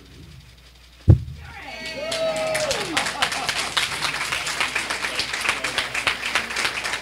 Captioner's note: cheering; applause